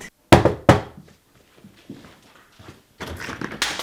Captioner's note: door knocking